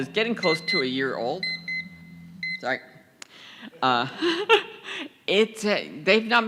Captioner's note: beeping